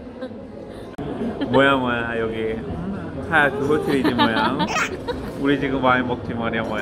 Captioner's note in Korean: 여자친구가 유난히 뭐야를 할때마다 크게 웃음